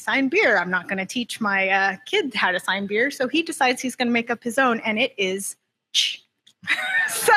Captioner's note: laughter